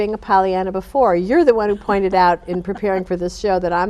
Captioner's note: chuckling